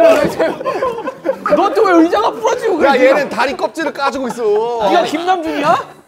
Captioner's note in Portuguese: Caótico barulhento